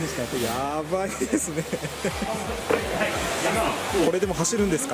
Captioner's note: laughs